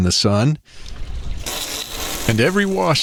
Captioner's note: SFX: Hosing down cabin top